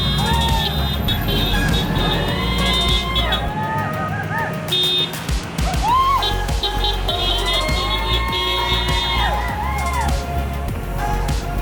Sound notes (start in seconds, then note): 5.1 crowd cheering; 8.2 horns honking